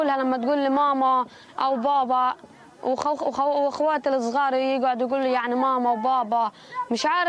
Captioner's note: speaking in a global language